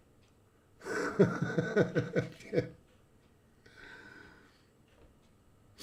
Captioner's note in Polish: śmiech